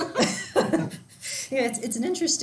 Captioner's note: laughs